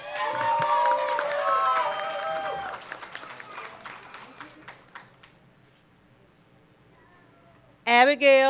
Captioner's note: cheering and Applause